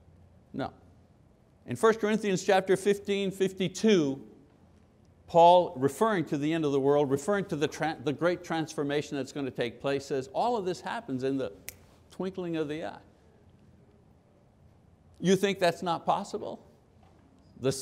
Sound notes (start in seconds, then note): 11.6 snapping